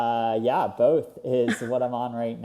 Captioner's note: laughs